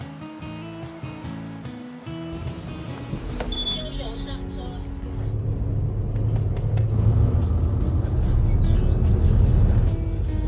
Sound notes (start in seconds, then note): 0.0 soft guitar playing; 3.6 foreign language; 5.9 bus engine running